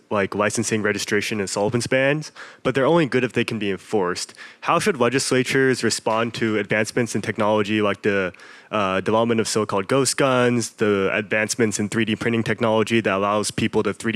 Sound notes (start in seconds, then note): none